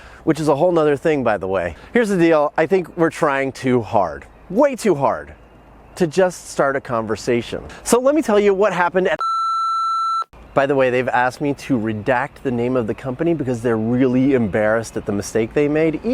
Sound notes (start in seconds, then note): 9.2 beep